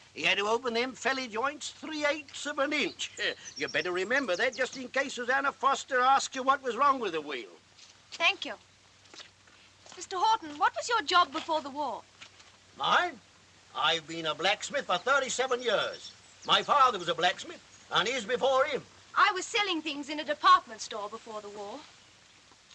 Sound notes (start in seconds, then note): 3.1 chuckles